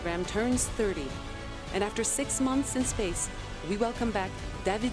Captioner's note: speaking French